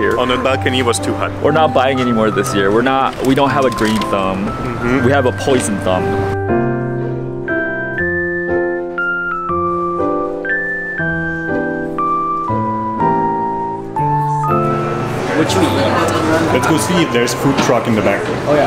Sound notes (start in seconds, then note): 6.5 relaxing music; 14.0 crowd chattering